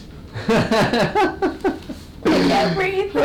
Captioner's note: laughing